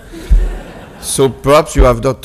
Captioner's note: audience laughs